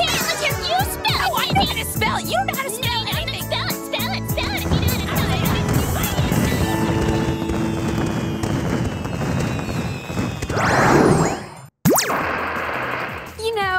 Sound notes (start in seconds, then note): 7.4 firecrackers popping